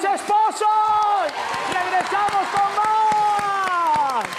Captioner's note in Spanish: Aplausos